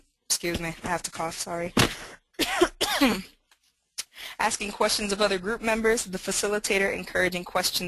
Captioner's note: cough, cough